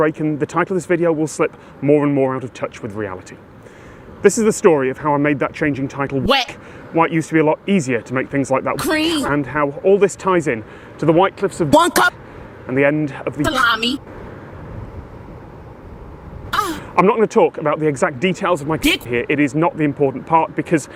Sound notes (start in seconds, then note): 16.5 moan